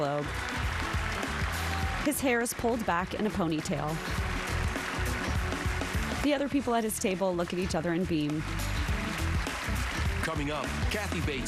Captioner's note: applause